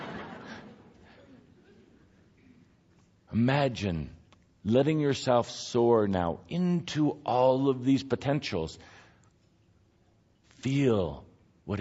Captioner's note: audience laughter